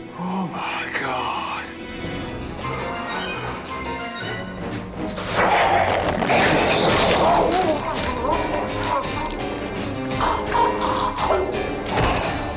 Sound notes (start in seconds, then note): 8.7 Heinrich gurgles